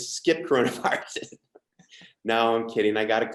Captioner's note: laughs